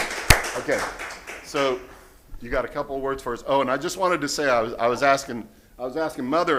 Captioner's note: applause